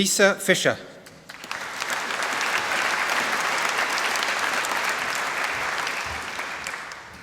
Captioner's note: applause